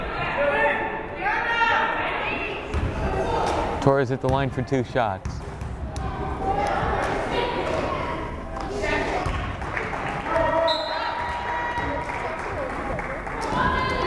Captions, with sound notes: Torres at the line for two shots. (crowd applauding) (whistle blows)